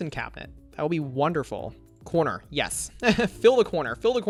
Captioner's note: laughs